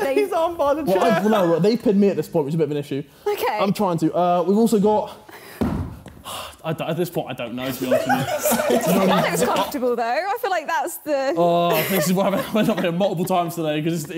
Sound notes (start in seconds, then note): 7.6 laughing